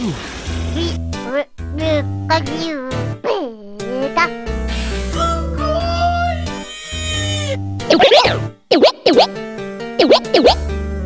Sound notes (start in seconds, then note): 1.0 Pikachu gibberish